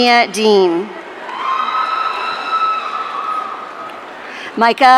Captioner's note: audience cheering